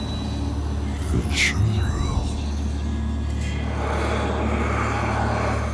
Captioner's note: rumbling voice